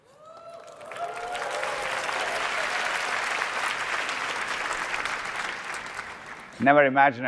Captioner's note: applause